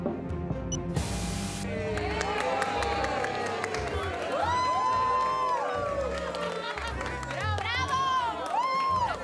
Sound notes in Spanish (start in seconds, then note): 3.6 aclamaciones; 3.6 aplausos